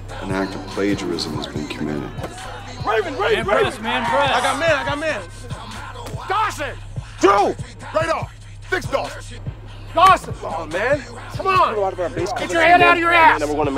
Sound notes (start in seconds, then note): 8.4 player shouting